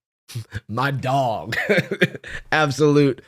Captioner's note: laughs